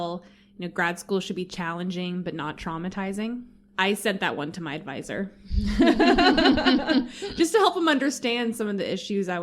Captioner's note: laughter